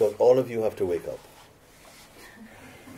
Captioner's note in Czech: Smích